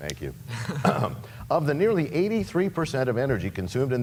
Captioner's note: laughter